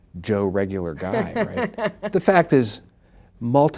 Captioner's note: laughing